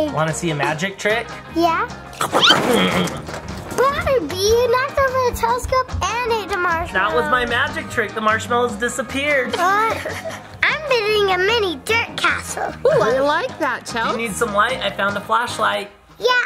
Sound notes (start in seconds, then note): 2.5 Barbie Malibu chewing; 9.5 Barbie Malibu laughing